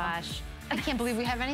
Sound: laughter

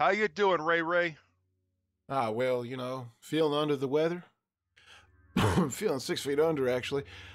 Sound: coughs

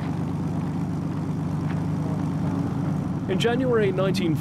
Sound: airplane propellers running

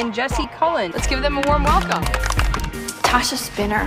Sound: clapping

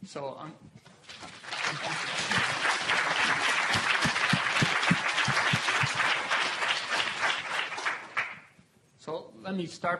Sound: applause

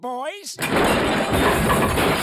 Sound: crashing

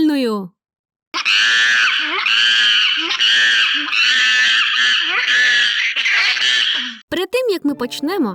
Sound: ape screaming

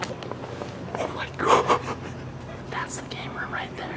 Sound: laughs

